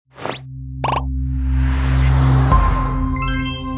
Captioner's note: popping noises; soft music